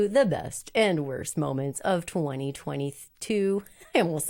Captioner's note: laughs